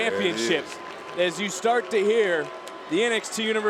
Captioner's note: crowd boos